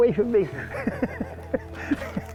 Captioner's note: laugh